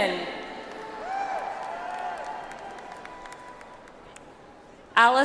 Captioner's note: audience applauds